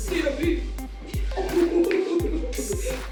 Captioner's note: laughing